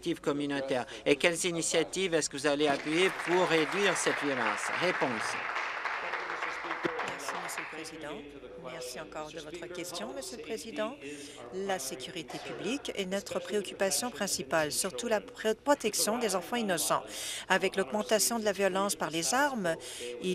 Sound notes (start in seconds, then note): 7.6 applause